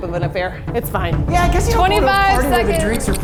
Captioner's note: clock ticking